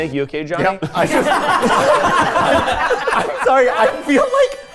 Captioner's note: all laughing